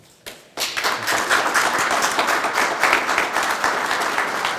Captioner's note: group applauding